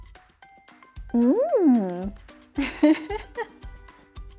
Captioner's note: laughter